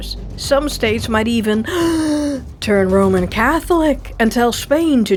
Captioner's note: gasp